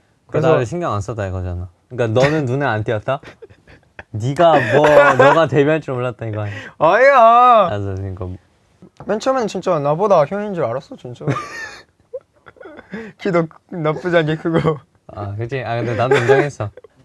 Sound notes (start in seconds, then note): 12.1 can't stop laughing